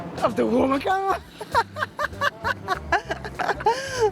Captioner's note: laughs